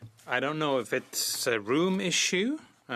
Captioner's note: speaking French